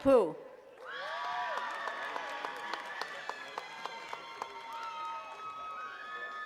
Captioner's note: attendees cheering and clapping